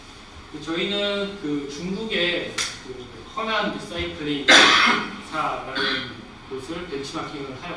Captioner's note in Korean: 목을 가다듬음